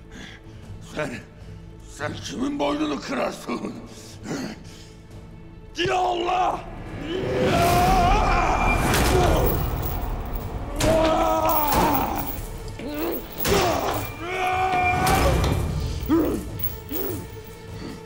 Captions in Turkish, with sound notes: Sen, sen kimin boynunu kırarsın? Ya Allah! (Bağırma sesi) (Vurma sesi) (Dövüş sesleri)